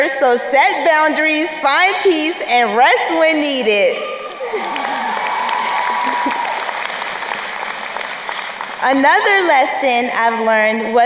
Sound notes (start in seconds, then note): 4.0 crowd cheering and applauding